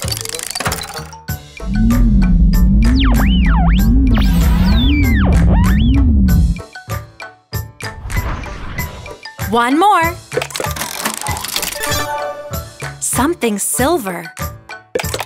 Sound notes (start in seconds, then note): 2.6 radio whistling; 6.4 playful music; 11.1 mechanical whirring